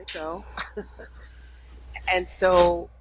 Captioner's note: laughing